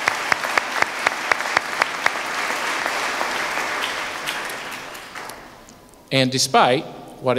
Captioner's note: applause